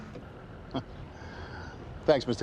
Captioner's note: birds chirping; Forbes laughing